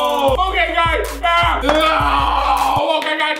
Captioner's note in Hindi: चिल्लाना